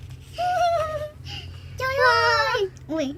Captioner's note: admiring noise @~@